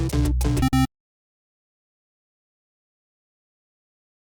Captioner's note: tone beeping